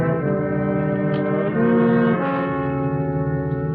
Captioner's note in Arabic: يفتح الباب